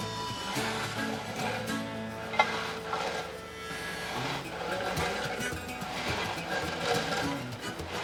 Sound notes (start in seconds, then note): 2.6 rake brushing